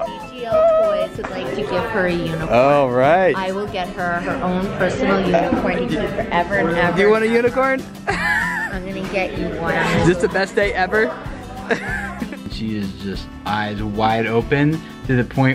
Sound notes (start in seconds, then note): 11.6 laughs